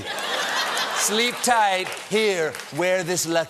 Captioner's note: laughter